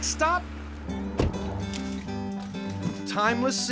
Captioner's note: door closes